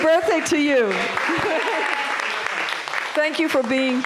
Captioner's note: applause